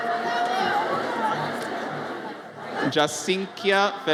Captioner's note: audience chattering